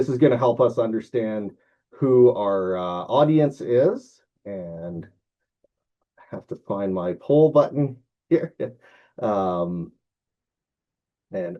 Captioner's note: chuckles